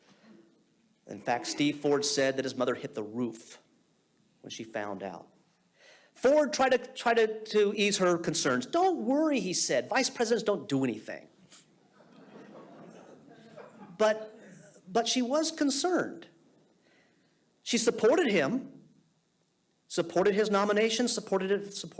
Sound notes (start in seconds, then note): 12.0 audience laughing